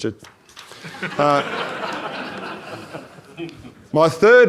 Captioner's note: audience laughs